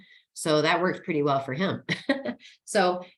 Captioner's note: laughing